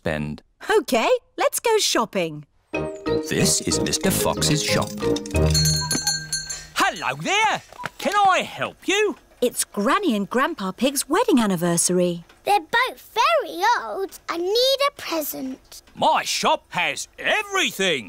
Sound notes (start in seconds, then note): 5.3 bell ringing